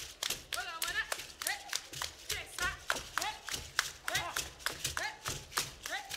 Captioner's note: hands clapping and beads rattling